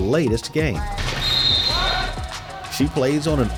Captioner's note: whistle blows